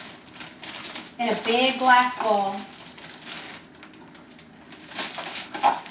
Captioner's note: bag crinkles